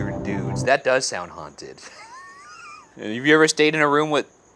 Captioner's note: wheezing